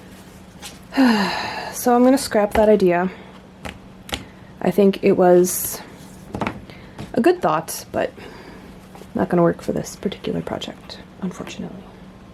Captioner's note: sigh